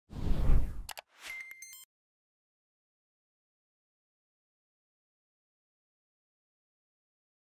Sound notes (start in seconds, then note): 0.1 air whooshing; 0.8 mouse clicking